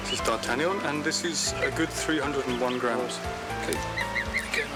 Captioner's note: baby geese chirping